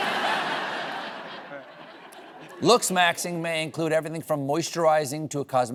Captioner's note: laughter